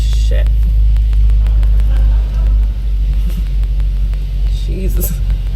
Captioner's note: audience laughs